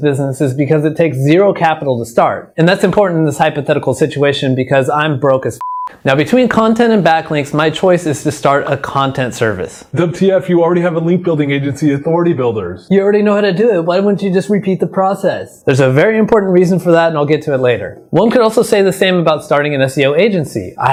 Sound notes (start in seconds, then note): 5.6 beep